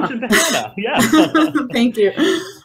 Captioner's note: chuckles